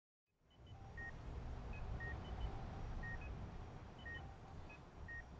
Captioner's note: sound of medical equipment, heart monitor beeps